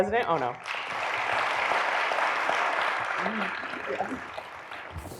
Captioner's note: audience clapping